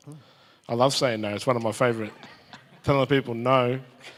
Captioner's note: audience and chuckle